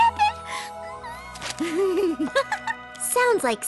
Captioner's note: giggle